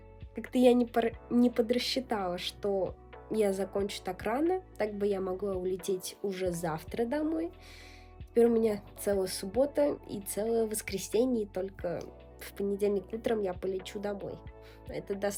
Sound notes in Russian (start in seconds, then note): none